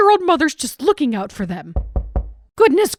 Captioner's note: knocking